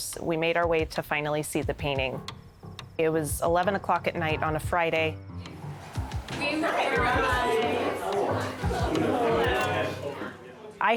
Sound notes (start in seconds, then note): 5.5 group chattering